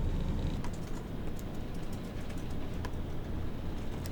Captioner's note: quiet keyboard clicking